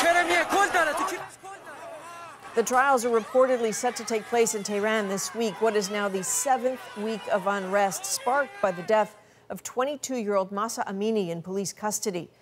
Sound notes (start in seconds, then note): 4.9 speaking alternate language